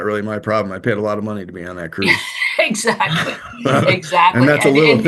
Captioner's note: laughter